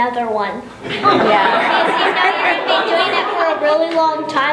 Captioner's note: laughter